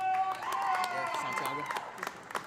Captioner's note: audience cheering; audience applauding